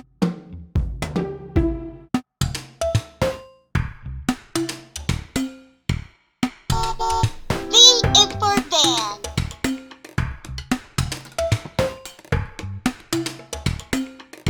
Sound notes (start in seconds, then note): 6.7 car horn toots; 9.7 playful music